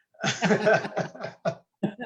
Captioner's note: laughter